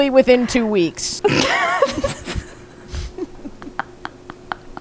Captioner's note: laughing